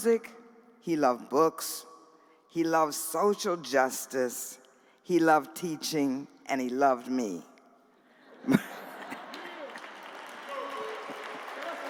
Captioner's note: laughter